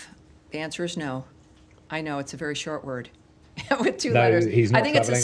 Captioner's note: laughter